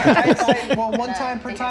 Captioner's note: group laugh